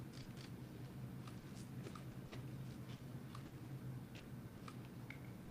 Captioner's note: camera shuttersound